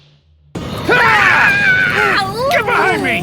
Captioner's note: screams